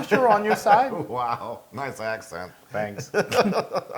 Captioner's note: laugh